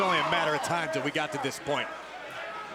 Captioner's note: crowd chatter